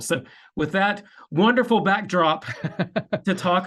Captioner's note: chuckling